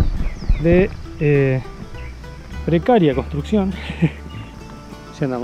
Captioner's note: laugh